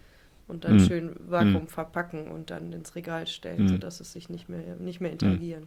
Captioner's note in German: räuspern